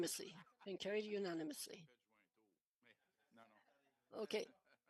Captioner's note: speaking French